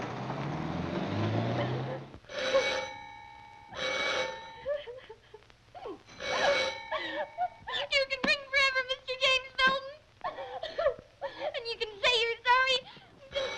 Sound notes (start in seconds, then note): 2.3 doorbell ringing; 5.8 crying